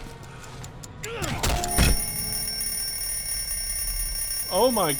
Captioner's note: countdown reaches zero and rings